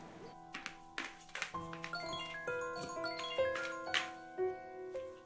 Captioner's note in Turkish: Telefon çalma sesi